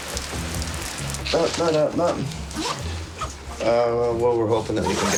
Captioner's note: water Splashing